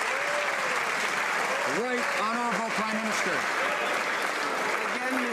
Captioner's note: some Applause